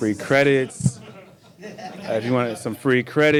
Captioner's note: people laugh